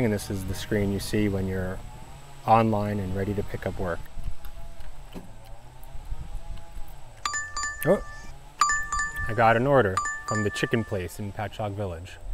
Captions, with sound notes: This is the screen you see when you're online and ready to pick up work. [phone ringing] I got an order from the chicken place in Patchogue Village.